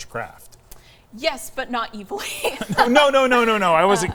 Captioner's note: chuckles